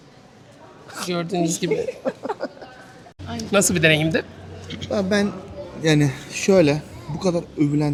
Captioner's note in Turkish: kahkaha